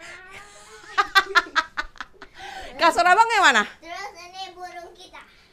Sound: laughs

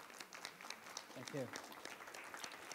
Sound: applause

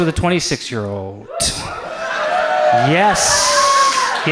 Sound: audience cheers

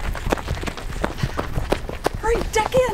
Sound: footsteps crunching

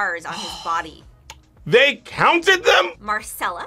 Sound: sighs

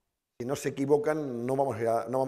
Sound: speaking spanish

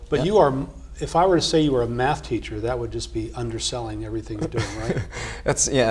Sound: laugh

